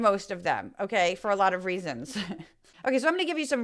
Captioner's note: laugh